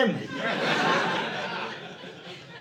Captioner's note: audience laughing